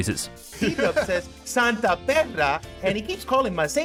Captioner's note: laughing